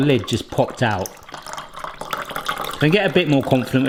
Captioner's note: water pouring